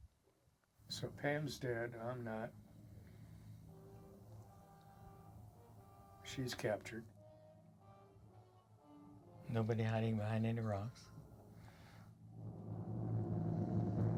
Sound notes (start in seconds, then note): 0.5 dramatic music plays; 7.8 eerie wind howling